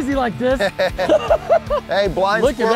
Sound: both laughing

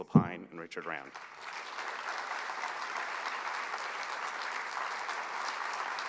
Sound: applause

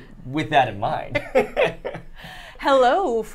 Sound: both laugh

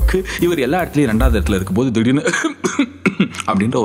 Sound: cough

